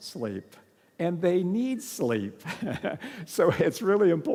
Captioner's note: laughs